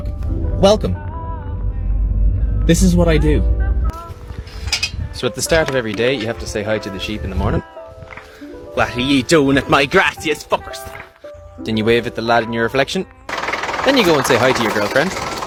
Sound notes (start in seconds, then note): 8.2 with an accent; 13.3 motor sounds